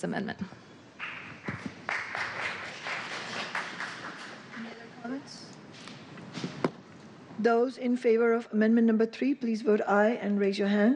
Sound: applause

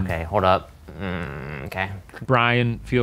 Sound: groans

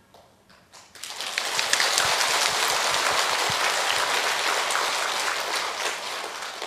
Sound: applause

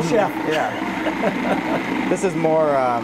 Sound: laughter

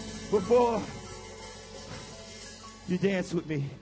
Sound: panting

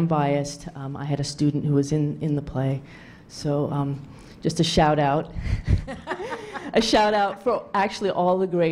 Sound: laughter

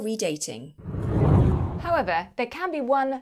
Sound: air swooshing

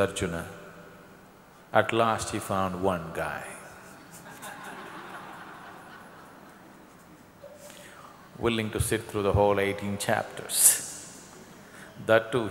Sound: laughter

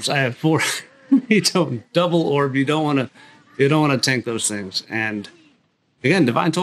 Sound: unintelligible laughter

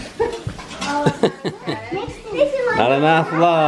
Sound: laughs

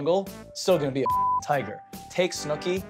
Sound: beep

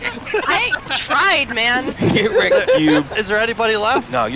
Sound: laughter

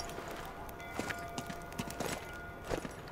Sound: none

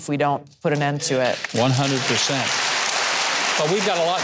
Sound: audience claps

